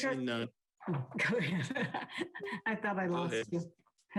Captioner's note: laughs